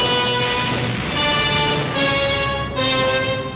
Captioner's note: artillery firing